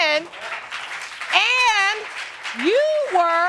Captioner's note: audience applauding